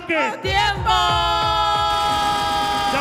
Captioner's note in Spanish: Aplausos